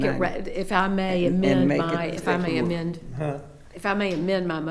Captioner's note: stammering